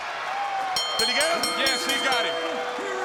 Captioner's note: crowd cheering; bell ringing